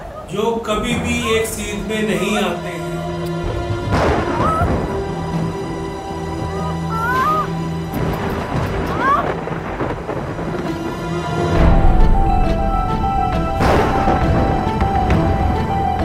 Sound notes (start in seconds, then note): 3.5 thundering; 4.3 screaming; 6.6 screaming; 13.4 thundering